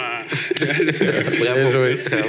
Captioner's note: laughs